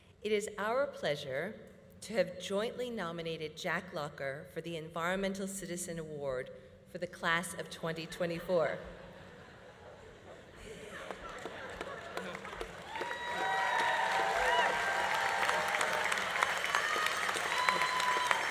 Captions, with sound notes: It is our pleasure to have jointly nominated Jack Locker for the Environmental Citizen Award for the Class of 2024. (audience laughing) (audience applauding) (audience cheering)